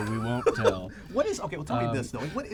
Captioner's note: laughs